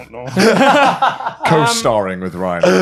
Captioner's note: laughing